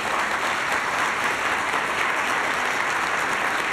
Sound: applause

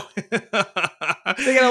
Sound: laughing

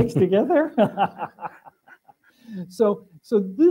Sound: laughter

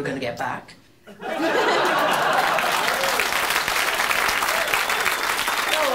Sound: applause

